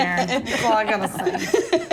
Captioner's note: laughs